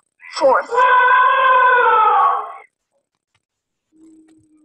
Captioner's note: elephant trumpeting